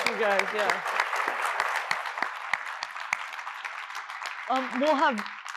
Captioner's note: applause